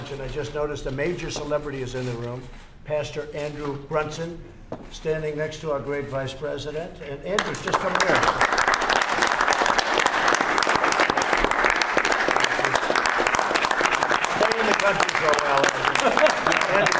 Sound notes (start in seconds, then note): 8.7 applause; 15.7 laughter